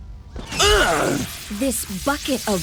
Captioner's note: prototype grunts